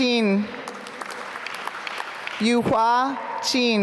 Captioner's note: applause